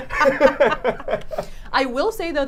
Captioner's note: both laughing